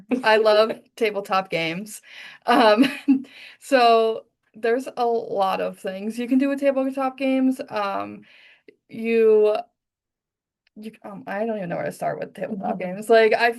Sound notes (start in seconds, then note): 2.2 laughs